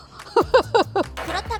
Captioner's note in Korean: 웃음